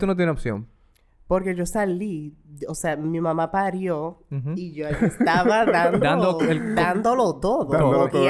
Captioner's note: laughs